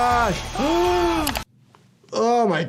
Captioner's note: character screaming; doctor gasping